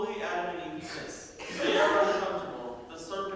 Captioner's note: audience laughter